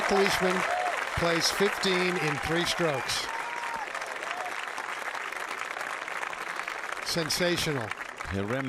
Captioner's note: cheers and applause